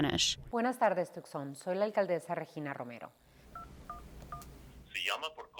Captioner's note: speaks in foreign language